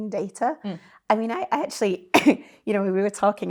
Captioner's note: coughs